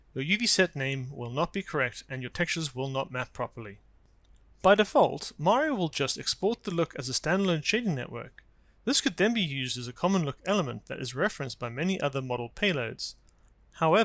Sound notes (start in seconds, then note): none